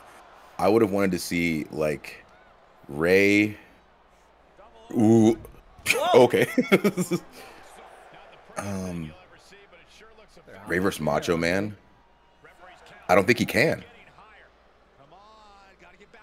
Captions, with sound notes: I would have wanted to see, like Rey. Okay [LAUGH]. Rey versus Macho man. I don't think he can.